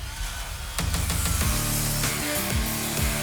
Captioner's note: saw buzzes